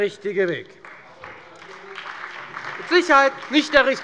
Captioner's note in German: Beifall bei Abgeordneten der FDP und der SPD